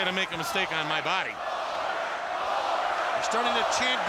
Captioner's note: audience chanting